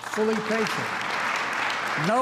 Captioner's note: applause